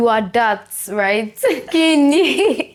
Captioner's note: laughs